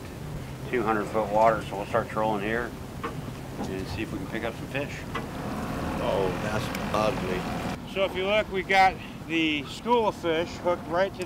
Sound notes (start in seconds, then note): 3.9 boat engine idling